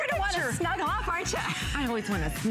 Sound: laughter

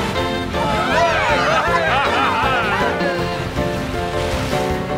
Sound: crowd cheering

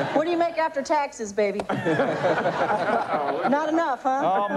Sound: laughter

